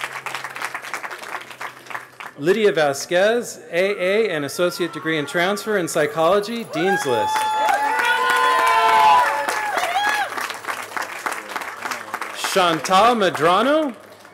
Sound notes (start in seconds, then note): 0.0 applause; 10.4 cheering